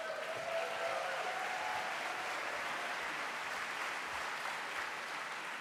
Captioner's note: applause